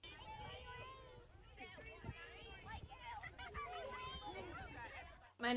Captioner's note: children chattering